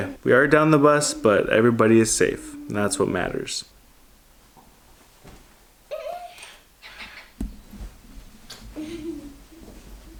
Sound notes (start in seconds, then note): 5.9 vocalizing